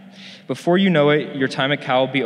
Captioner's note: none